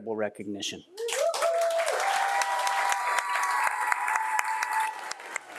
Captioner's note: audience applauding